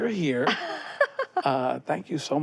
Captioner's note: laughs